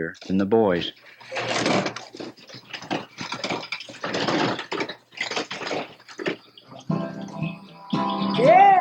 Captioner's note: sounds of the carpenter